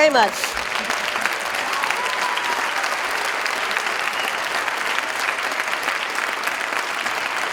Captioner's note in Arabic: تصفيق